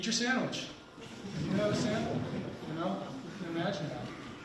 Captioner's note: people laughing